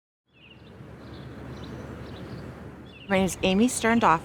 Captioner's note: birds chirping; wind blowing